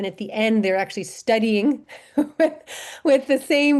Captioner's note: laughter